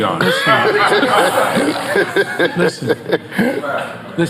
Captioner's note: group laughing